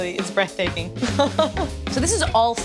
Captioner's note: laughs